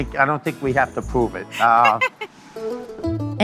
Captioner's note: laughs